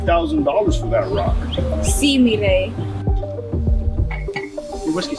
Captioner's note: speaks in foreign language